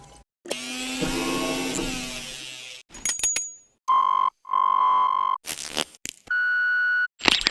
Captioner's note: SFX from recorded sounds